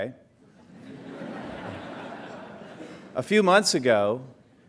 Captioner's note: laughter